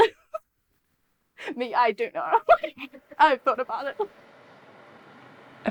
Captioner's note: laughs